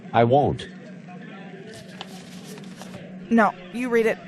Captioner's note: paper rustle